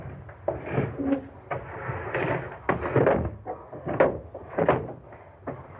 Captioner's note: corpse's feet thumping down steps